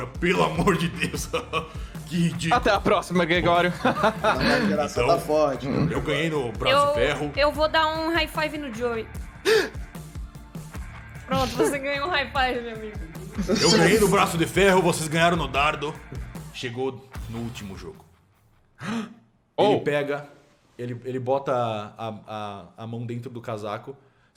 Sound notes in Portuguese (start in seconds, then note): 0.4 riso; 11.3 exclamação surpresa; 18.4 exclamação surpresa